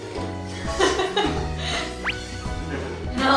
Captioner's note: haha